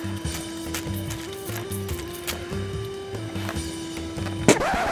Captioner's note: water spraying